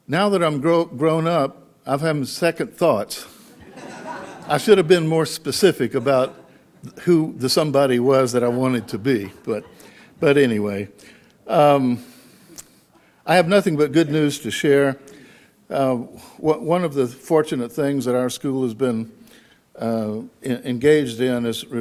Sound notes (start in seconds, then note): 3.5 audience laughs